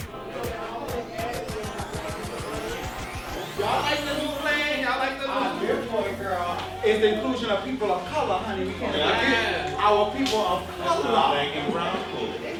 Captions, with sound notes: [indistinct chattering] - It's the inclusion of people of color, honey, our people of color.